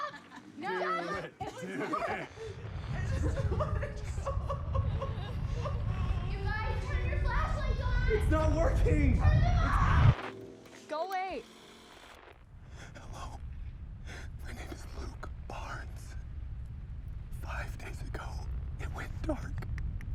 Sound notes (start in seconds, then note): 3.4 distorted crying